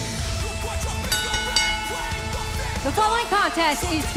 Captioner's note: bell ringing